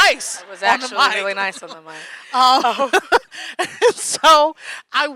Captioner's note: laughing